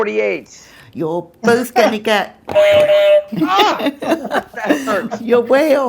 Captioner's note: buzzer